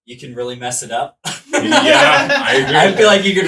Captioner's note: laughs